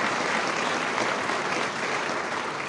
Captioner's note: applause